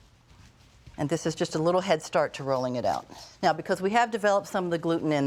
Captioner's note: none